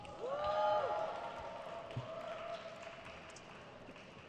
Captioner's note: crowd cheers